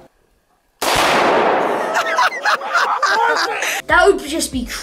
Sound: banging; laughs loudly

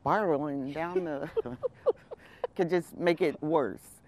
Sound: laughs

